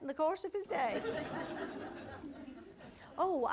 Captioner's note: audience laughter